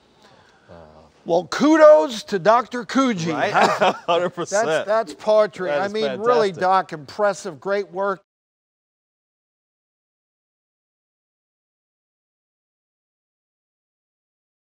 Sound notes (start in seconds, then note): 3.3 laughs